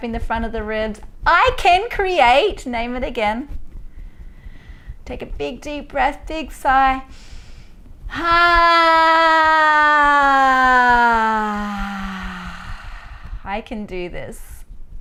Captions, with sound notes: Tapping the front of the ribs. I can create, name it again. Take a big, deep breath, big sigh. (inhaling and sighing) I can do this.